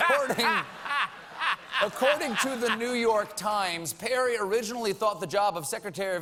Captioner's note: laughter